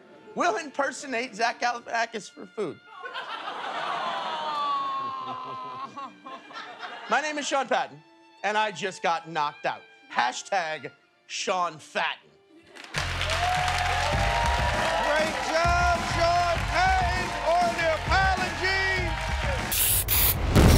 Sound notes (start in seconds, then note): 5.2 laughs; 12.8 cheers and applause